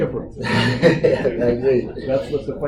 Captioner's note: laughter